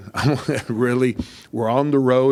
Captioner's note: laughs